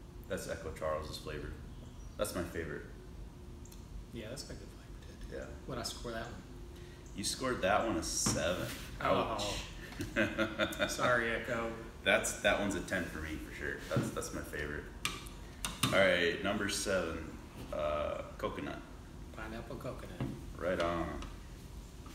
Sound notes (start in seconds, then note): 9.4 laughing